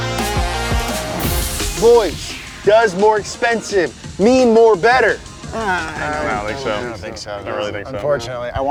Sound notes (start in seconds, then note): 0.0 car engine revving; 0.0 electro music; 5.2 everyone grunts